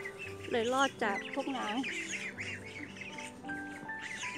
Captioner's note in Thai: เสียงห่านร้องจะมากินผัก